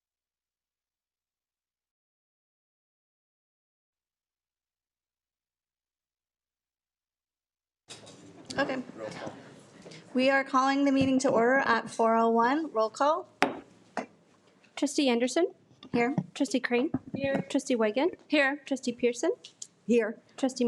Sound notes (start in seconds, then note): 13.4 gavel taps